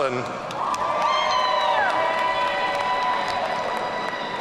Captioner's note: audience cheering